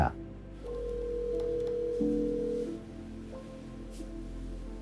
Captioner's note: phone dialing